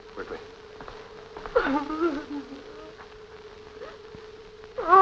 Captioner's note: crying